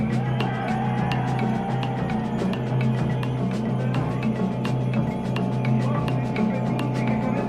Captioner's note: crowd noise; drums playing